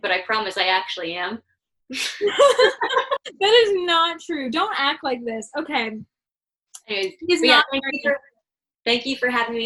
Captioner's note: laughter